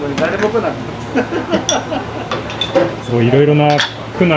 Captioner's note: laughter